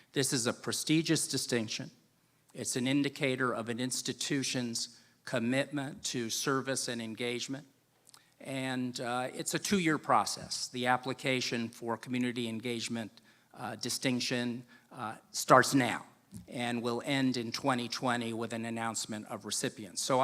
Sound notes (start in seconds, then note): none